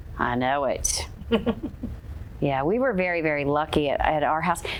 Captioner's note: chuckles